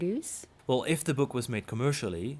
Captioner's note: voiceover